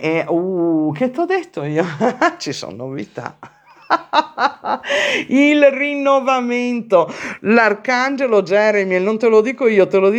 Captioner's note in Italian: risate